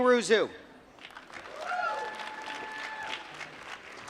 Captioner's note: applause